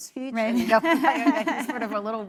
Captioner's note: laugh